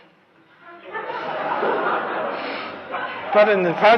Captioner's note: laughter